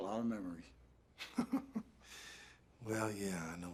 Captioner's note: Roland chuckling